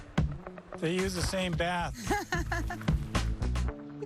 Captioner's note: laughing